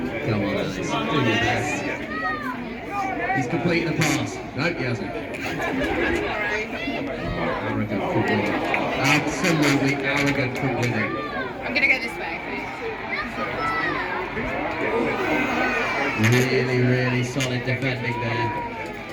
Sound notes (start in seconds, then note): 5.3 laughter